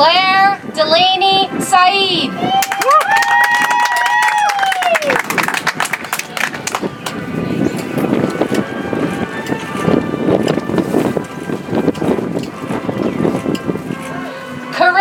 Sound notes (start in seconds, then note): 6.1 audience applauds; 10.6 soft music